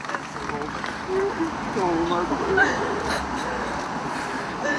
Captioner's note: crowd cheers; crying and talking quietly; sobbing and crying